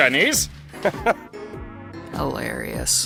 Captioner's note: chuckles